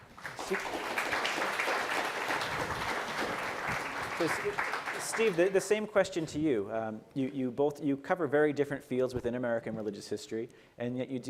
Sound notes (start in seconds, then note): 0.0 applause